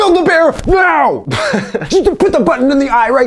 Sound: laughs

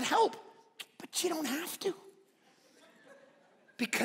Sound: congregation laughing

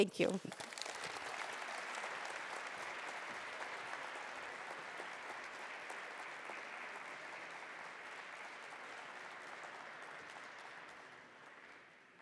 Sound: applause

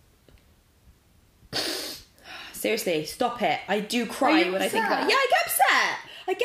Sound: sniffs loudly

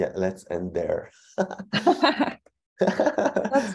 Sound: laughs

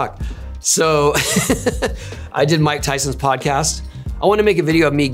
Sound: laughs

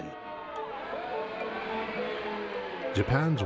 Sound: people shouting in foreign language

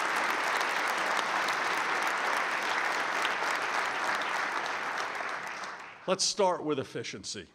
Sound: applause

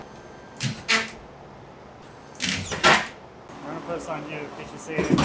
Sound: nail gun sounds

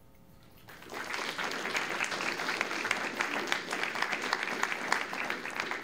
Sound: applause

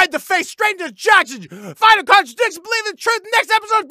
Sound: gasp

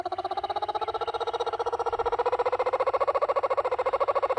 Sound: bird chirping

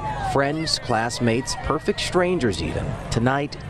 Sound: cheering

